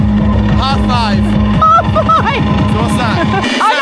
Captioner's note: laughs